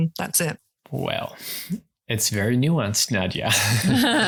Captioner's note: laugh